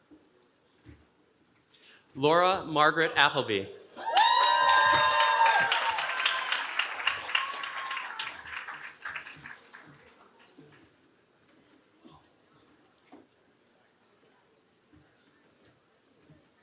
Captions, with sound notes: Laura Margaret Appleby. [CHEERING]